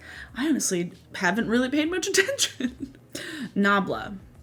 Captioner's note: laughs